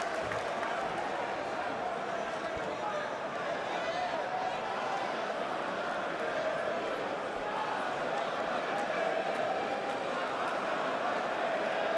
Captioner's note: crowd chatter